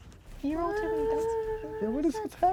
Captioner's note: humming